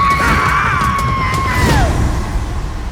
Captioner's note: screams; scream echoes; music concludes